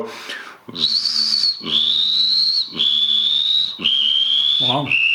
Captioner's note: imitates Water Rail